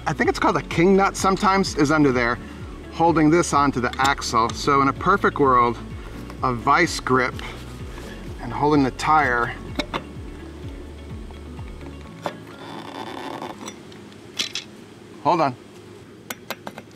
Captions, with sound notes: I think it's called a king nut sometimes, is under there holding this onto the axle. So, in a perfect world, a vice grip and holding the tire. (metal rubbing) Hold on.